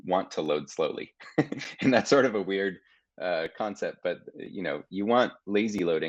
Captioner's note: chuckling